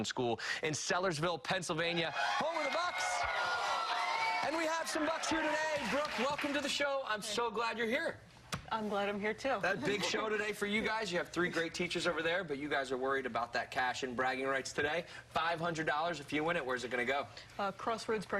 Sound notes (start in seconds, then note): 7.7 cheers and applause